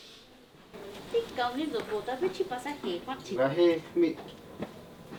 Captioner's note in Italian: Parlano tra loro in mazateco